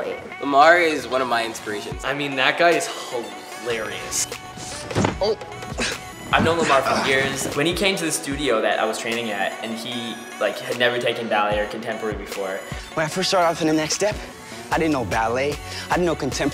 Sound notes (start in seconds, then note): 5.7 boys groan and struggle